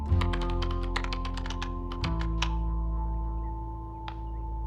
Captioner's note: keys clacking